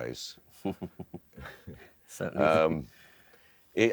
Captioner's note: laughs